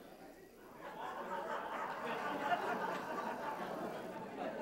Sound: laughter

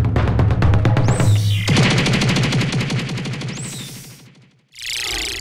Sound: spaceship noise

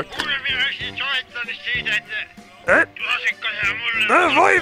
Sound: person on phone speaking Finnish

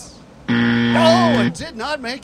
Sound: buzzer

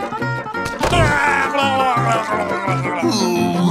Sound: grumbling

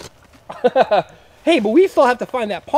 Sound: laughs

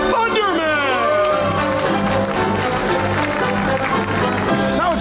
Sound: applause

